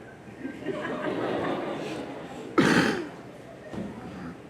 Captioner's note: audience laughs